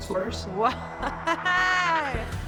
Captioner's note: laughs